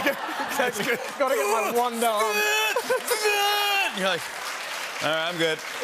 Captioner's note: laughter; grunting